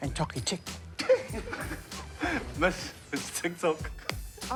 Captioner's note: sniggering